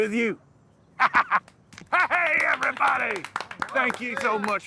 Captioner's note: laughing